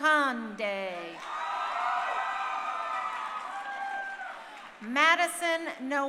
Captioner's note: crowd cheering